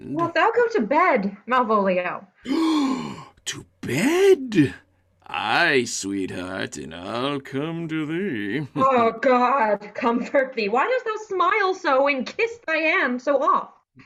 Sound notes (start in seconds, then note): 2.4 gasp